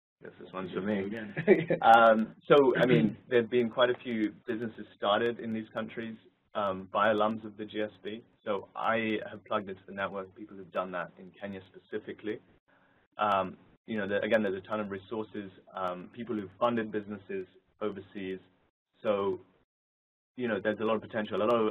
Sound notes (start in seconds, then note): 1.2 laugh